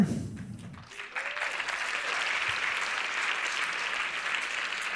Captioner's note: audience applauding